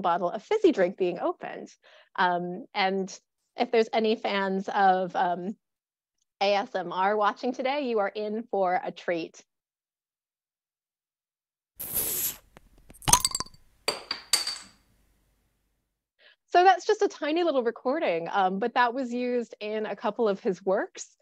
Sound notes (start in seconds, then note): 9.4 bottle opening; 9.4 cap falling on table top